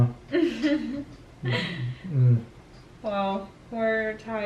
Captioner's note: laughs